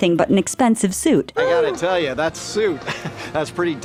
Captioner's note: chuckles